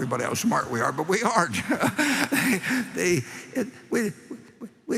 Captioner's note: laughter